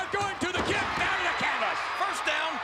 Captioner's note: spectators cheering